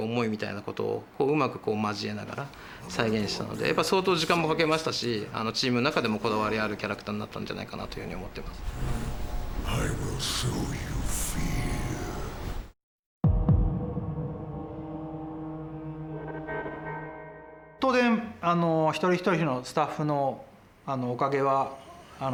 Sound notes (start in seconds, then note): 9.7 in English